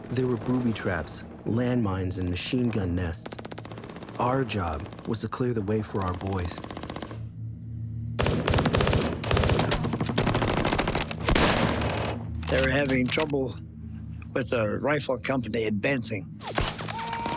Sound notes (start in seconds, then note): 8.2 gunfire